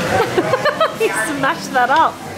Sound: laughs

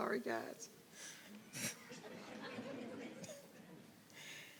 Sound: audience laughing

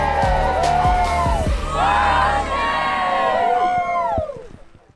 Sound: crowd cheers

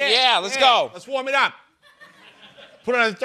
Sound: brooklyn accent

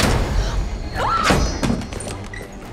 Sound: thudding; shrieking

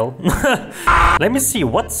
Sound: chuckles; screams again

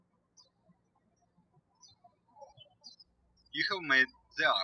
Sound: birds chirping

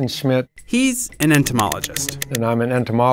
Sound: voiceover

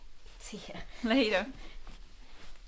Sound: none

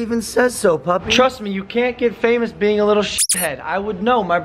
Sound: squeak

